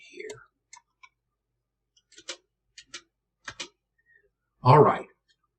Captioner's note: keypads clicking